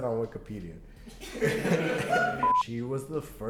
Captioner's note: laughing